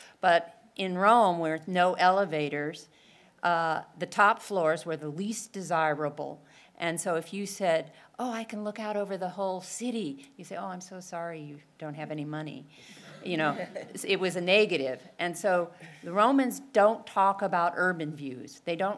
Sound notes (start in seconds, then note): 13.4 laugh